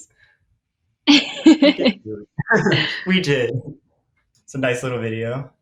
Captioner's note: laughing